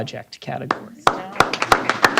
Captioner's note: applause